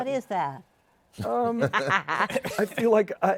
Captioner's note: laughs